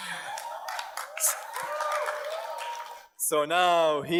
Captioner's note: audience cheers and applauds